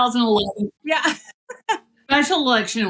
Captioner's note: laugh